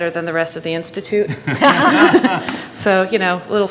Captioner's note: attendees laughing